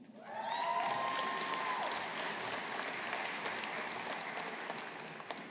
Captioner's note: audience applauding